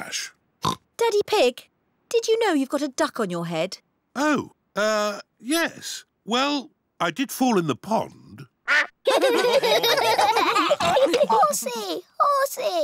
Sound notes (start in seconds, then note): 0.6 oinks; 9.0 all laugh